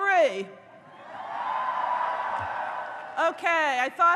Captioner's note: audience cheers